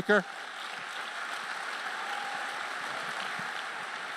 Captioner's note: applause